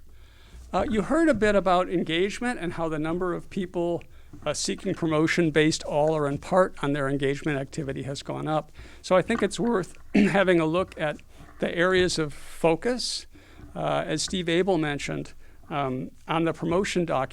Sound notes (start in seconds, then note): 10.0 cough